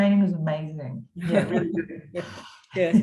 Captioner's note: both laughing